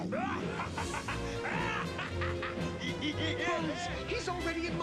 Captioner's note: laughs